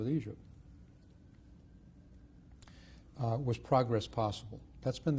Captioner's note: pauses for 3 seconds